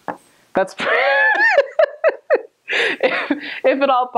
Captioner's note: laughter